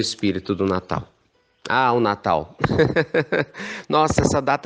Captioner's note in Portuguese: risos